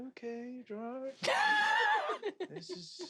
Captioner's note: laughs